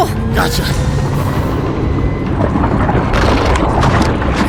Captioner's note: sub whirring